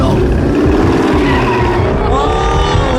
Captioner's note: tires screeching